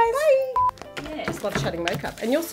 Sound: scene beeps

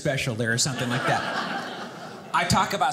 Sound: audience laughing

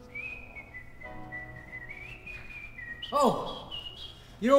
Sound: whistling

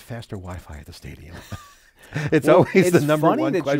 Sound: laughs

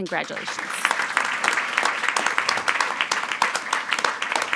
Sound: attendees applauding

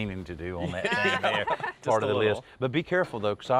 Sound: chuckles

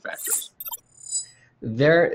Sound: electronic chimes

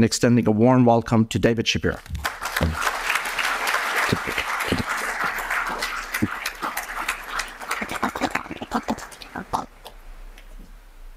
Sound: applause

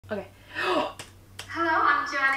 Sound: dramatic gasp

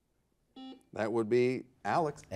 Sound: buzzer buzzes

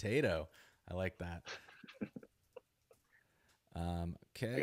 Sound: laughs

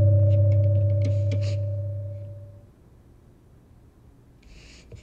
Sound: floor creaking

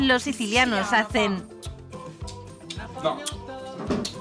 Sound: click

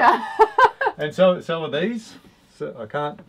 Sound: laughs

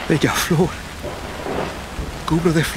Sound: thunder

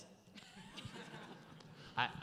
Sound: laughter

